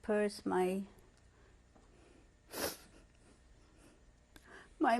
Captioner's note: sobbing